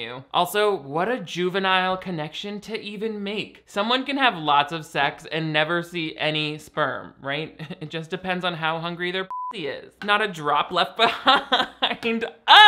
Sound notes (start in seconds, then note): 9.3 beeps; 11.8 laughs